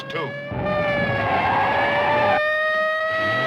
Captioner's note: tires screeching